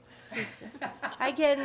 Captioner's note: people laughing